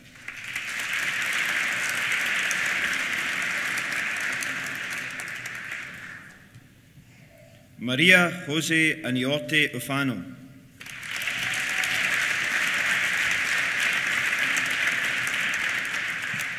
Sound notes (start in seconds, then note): 0.0 applause; 10.8 applause; 10.8 cheers